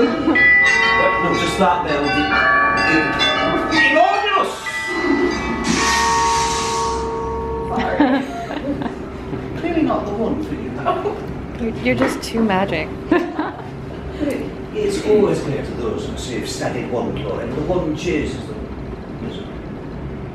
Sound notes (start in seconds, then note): 0.0 bell ringing; 0.0 multiple bells ringing; 5.8 bells stop ringing; 13.1 laughing